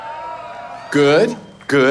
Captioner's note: audience cheering